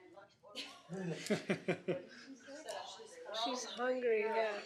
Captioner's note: laughter